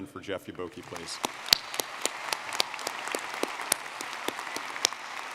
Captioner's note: audience clapping